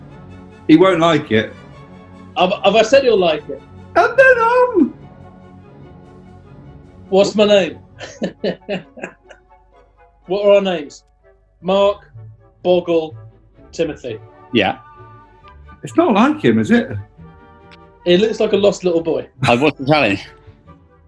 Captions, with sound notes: He won't like it. Have I said he'll like it? [HIGH PITCHED] And, then, um... What's my name? [CHUCKLING] What are our names? Mark... Boggle... Timothy. Yeah. It's not like him, is it? He looks like a lost little boy. What's the challenge?